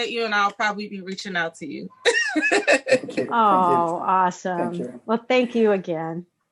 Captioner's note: laughing